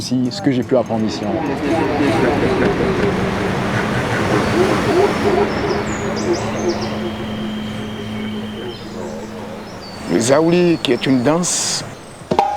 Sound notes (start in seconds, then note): 9.9 foreign language